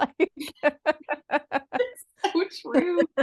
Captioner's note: both laugh